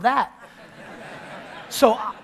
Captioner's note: audience laughter